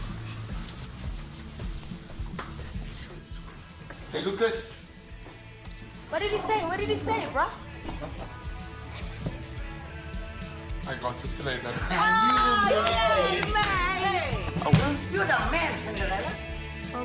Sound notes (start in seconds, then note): 0.3 bar noise and music; 9.0 inspirational music; 11.9 everyone clapping and celebrating